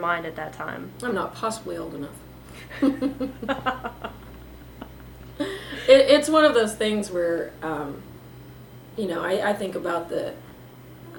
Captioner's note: laughter